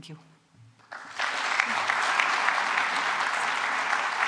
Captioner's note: applause